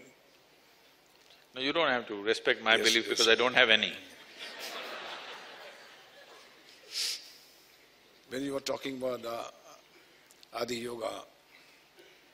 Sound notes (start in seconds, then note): 4.2 laughter